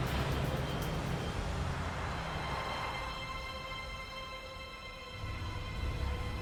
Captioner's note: street noise